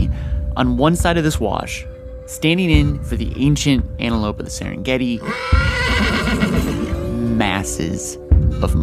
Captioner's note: horse neighs